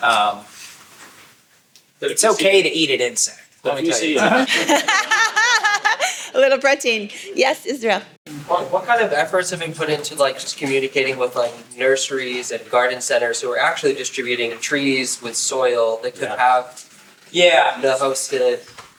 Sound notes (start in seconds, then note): 3.9 laughing